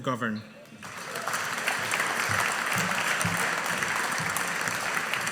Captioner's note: audience applauding